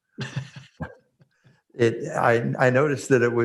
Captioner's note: laughs